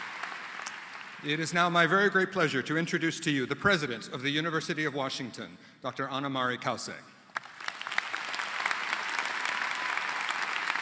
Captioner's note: applause